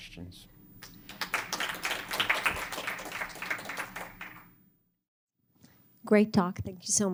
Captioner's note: applause